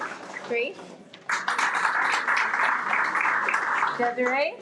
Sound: everyone applauds

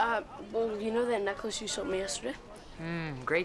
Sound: none

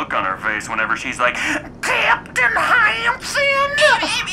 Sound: southern drawl

